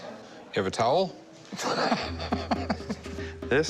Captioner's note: laughing